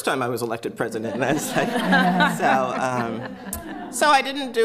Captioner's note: laughter